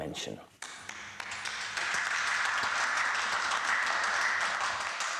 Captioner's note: audience applauds